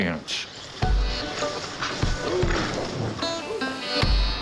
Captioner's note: horses rustling